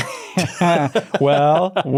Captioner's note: both laughing